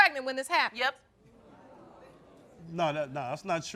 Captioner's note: crowd discussing